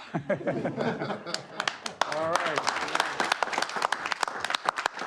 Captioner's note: laughter; applause